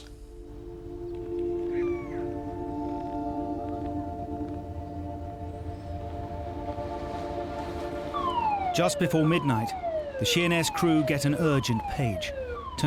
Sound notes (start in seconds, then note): 0.2 eerie music; 1.6 bird squealing; 2.9 eerie music; 5.7 birds chirping; 6.7 waves crashing; 6.7 wind whooshing; 8.0 siren wailing